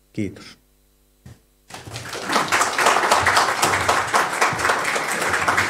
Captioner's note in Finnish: Aplodeja